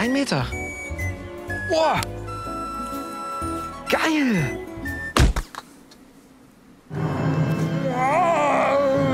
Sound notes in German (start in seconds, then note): 5.2 Schlaggeräusch